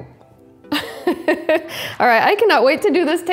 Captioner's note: laughs